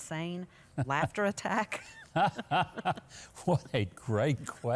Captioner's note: both laughing